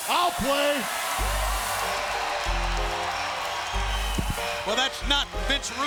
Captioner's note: crowd cheers; upbeat music